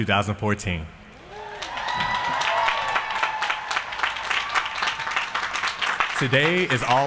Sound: applause

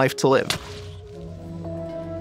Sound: splat

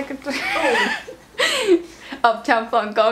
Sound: all 3 laugh

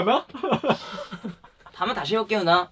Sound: laugh in silence

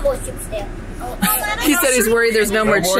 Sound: laughs

